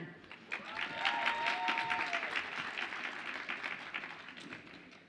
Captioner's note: audience applauds and cheers